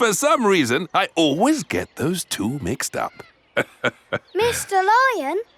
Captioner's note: laughs